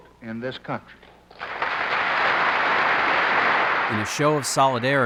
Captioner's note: applause